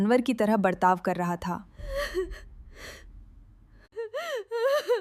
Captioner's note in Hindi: अचानक ज़ोर से सांस लेने की आवाज़